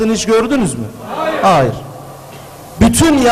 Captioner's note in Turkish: hayır sesleri